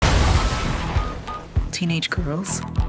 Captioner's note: power line sparks